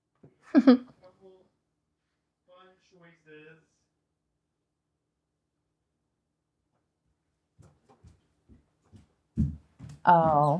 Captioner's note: laughs